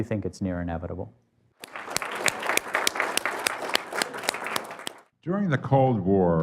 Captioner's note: applause